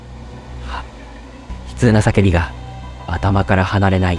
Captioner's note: sigh